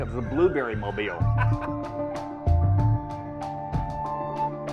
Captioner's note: laughter